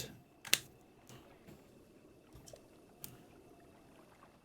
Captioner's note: clicks